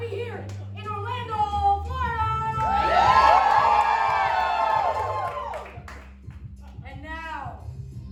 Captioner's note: cheers